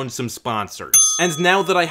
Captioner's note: ding